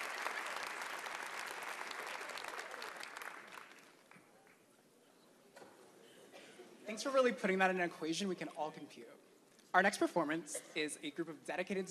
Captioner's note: applause